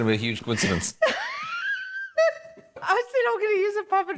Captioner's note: laughs